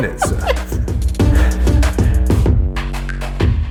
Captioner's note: laughs